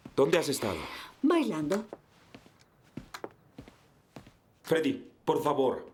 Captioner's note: Alan sighs